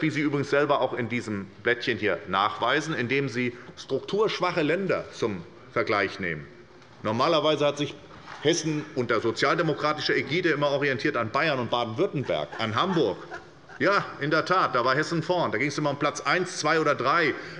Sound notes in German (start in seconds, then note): 12.0 Lachen auf der Regierungsbank